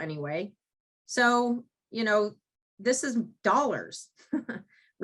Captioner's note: chuckles